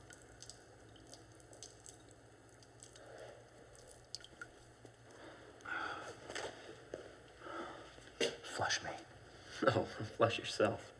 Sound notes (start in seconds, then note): none